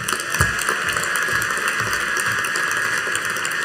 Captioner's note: audience applauding